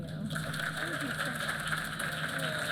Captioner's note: applause